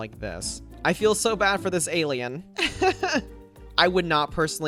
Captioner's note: laughs